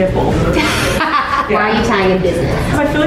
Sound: laughs

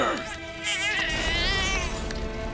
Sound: crying

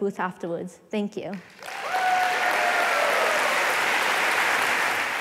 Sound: applause

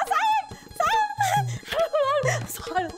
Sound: chuckles

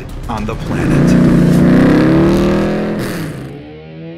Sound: car engine roars; lively rock music

